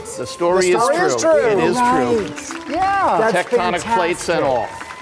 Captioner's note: audience claps